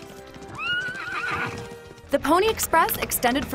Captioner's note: horse neighing